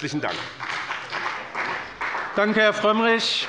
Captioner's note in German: Beifall bei dem BÜNDNIS 90/DIE GRÜNEN und bei der CDU